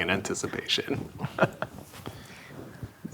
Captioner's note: laughing